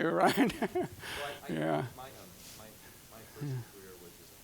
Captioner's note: laughing